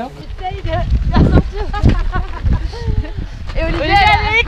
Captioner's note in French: rires